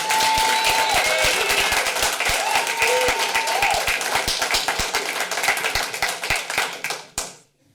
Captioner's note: applause